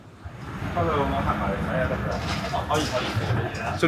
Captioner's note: people chattering; speaking in foreign language; chef 1 speaking in foreign language